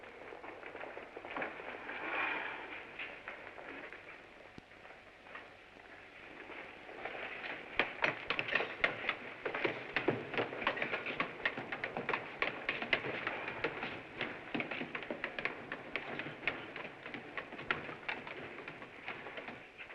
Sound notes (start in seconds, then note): 0.1 feet scrambling; 6.9 feet scrambling up steps